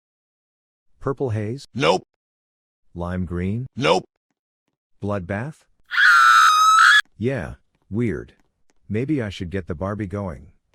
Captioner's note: scream